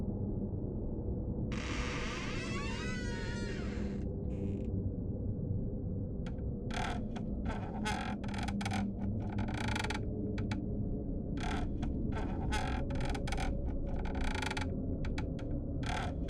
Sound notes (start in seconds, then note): 1.5 door creaking; 6.7 floor creaking